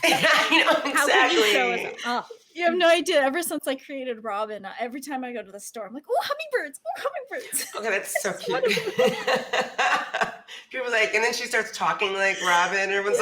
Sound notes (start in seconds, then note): 7.6 laughs